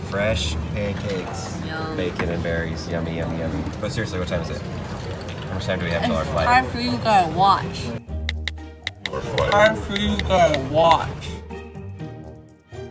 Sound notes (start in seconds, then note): 8.8 tick, tick, tick